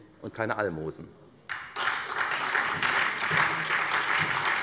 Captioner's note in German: Beifall SPD